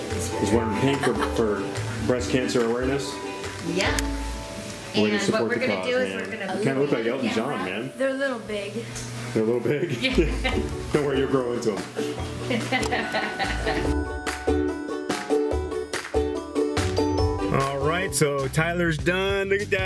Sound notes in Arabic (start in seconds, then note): 9.9 يضحك; 13.7 موسيقى مرحة